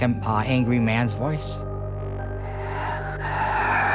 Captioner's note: whisper